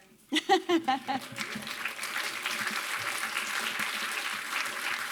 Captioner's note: applause